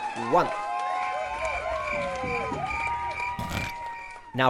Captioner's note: crickets chirping